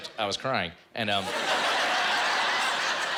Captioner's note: laughter